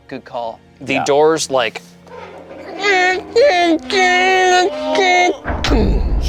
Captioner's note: squeaking